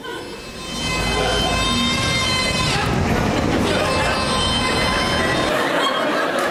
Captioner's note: audience laughs; screaming